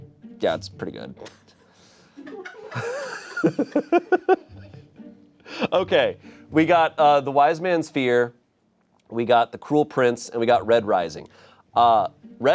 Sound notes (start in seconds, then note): 2.2 audience members laughing; 2.6 laughing; 3.7 playful music